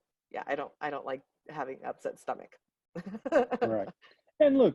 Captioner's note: laughs